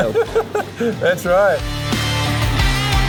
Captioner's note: laughing; upbeat music